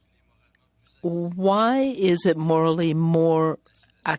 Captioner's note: speaking French